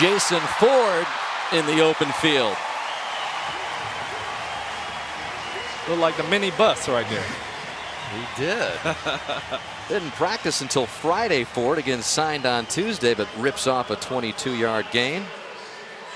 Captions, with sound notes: And here is Jason Ford in the open field! [cheering] Like a mini Bus right there. He did. Didn't practice until Friday for it. Again, signed on Tuesday. But rips off a 22-yard gain.